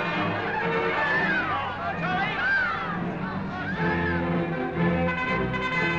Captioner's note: people cheering; crowd chattering; brass fanfare